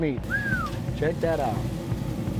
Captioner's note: whistle